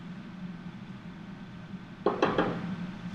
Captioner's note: knocking